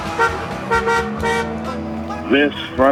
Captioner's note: car honking